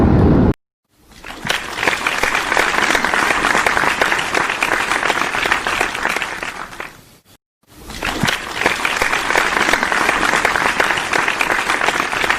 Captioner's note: applause